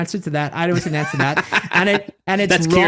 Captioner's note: laughing